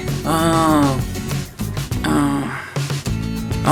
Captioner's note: groans